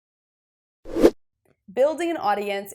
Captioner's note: graphic whooshes